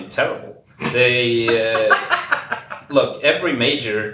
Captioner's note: laughs